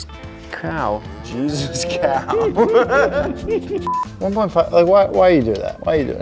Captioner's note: laughing